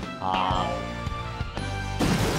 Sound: crash

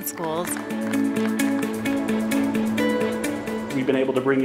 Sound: audience applauding

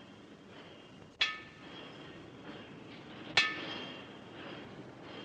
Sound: metal clangs

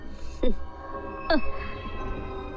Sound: chuckles

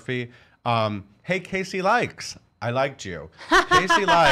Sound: laughing loudly

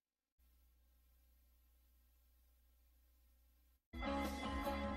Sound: TV static

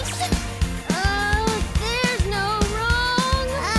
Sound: warbling

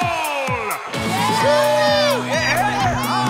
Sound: cheering

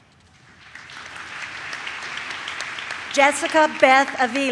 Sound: audience claps

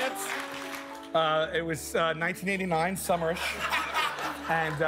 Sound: cheers and applause

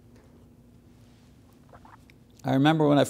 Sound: gulps water

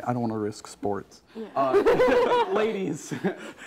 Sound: team laughing

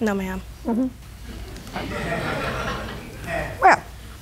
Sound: laughter

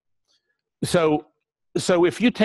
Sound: pause

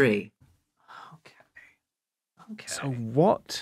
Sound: whispering

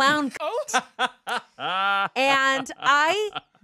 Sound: laughing

